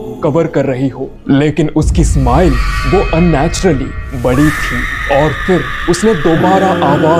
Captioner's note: screaming sound